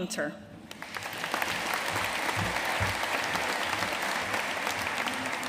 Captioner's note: audience applauding